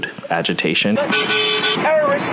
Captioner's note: car honking loudly